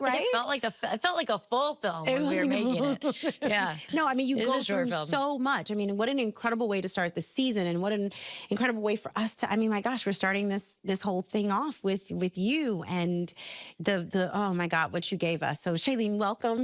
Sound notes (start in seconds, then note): 2.1 laughing